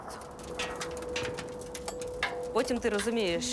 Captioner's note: metallic tinkling